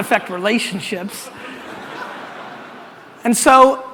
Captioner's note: audience laughter